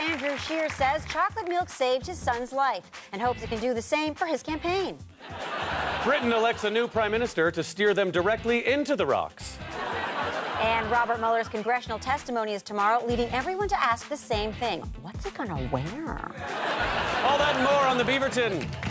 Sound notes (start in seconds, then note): 5.2 audience laughter; 9.6 audience laughter; 16.4 audience laughter